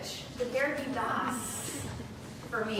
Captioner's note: speaking German